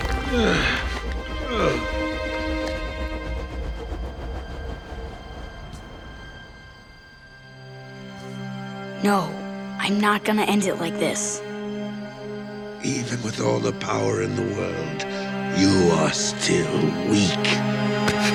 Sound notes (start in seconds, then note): 0.0 groaning; 2.6 whirring